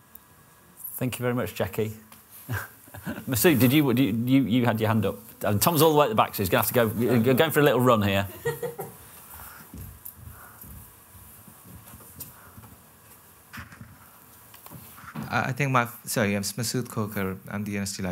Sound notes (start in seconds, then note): 8.2 laughter